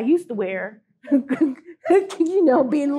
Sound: laughter

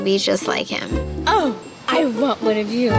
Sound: cooing

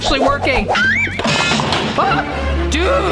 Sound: boinging crash

